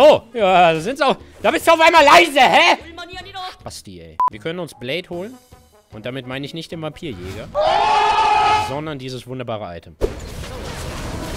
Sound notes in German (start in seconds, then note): 7.6 Jubel